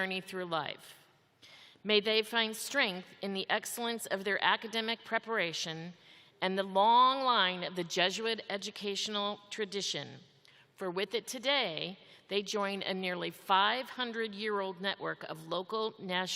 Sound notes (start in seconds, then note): none